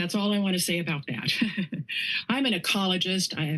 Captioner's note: laughs